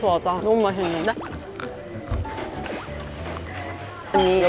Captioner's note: nom nom